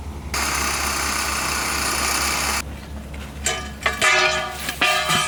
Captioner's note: tool whirring; metal clanging